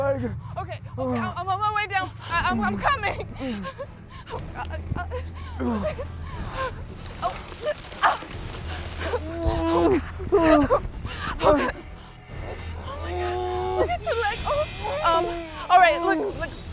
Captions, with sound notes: OKAY, OKAY, I'M ON MY WAY DOWN. I'M COMING. [ Sobbing ] OH, GOD. [ GRUNTING ] OH. AAH. [ GROANS ] OH, MY GOD. LOOK AT YOUR LEG. ALL RIGHT, LOOK, I GOT TO GO GET HELP.